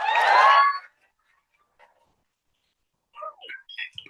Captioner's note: cheering